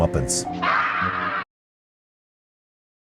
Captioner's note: scream